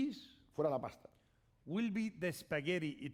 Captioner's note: speaking spanish